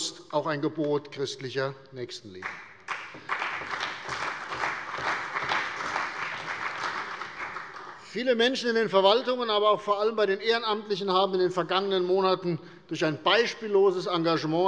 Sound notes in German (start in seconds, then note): 2.4 Beifall bei der CDU und dem BÜNDNIS 90/DIE GRÜNEN